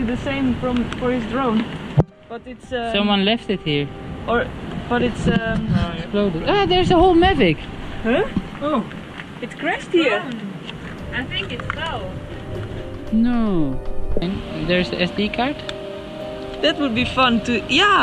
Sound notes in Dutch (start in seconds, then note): 7.6 drone